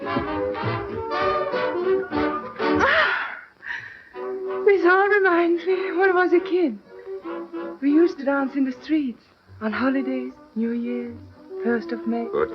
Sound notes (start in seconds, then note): 2.7 laughing